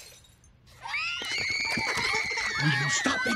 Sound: baby monsters screaming

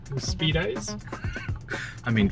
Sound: laughter

